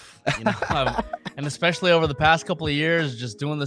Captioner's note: laughing